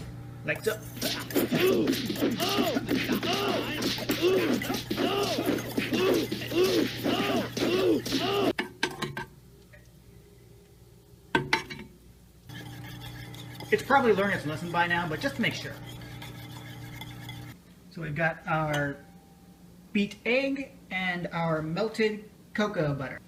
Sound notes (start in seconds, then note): 6.1 sounds of a man being brutally beaten